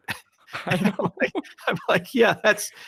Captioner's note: both laughing